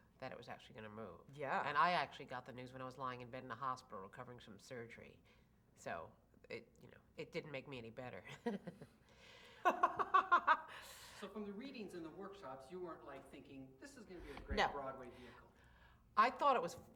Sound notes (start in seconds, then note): 9.6 laughs